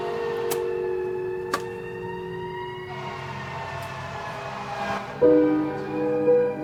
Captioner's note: camera clanking; sirens wailing; camera thuds; pensive music; siren continue wailing